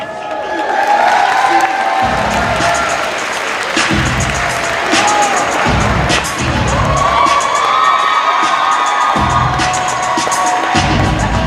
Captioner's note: cheers and applause